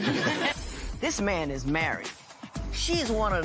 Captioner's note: laughter